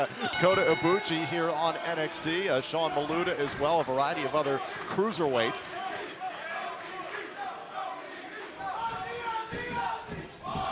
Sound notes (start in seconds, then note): 1.9 bell ringing